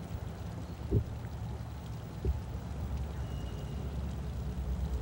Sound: whistling

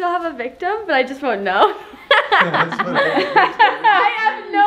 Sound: laughs

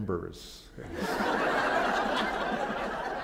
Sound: laughter

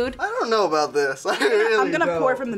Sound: laughs

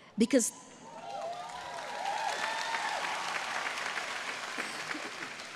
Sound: audience applauding

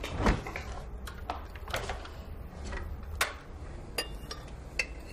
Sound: rustling

